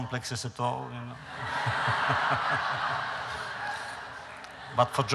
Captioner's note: laughter